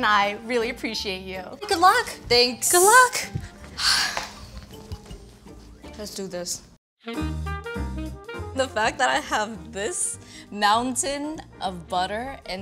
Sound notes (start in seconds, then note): 3.8 sighs; 7.0 jazzy music